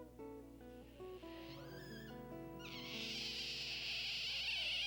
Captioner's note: otter wailing